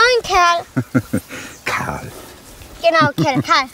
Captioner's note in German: lachend